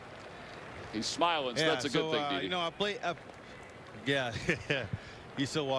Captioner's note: laughter